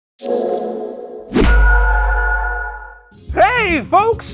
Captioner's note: read in british accent